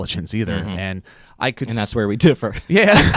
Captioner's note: laugh; chuckles